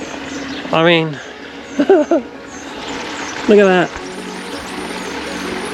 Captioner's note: laughs